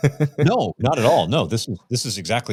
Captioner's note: chuckling